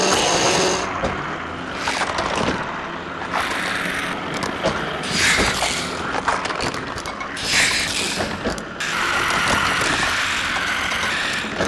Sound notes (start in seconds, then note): 4.2 clicks; 5.4 wheels whirring